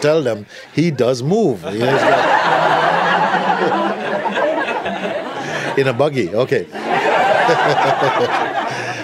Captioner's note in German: Lachen